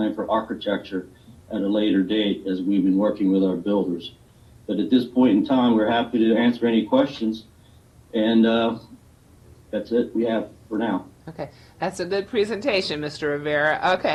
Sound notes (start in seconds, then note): none